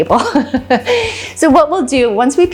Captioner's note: laughs